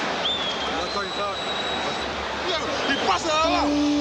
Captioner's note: chattering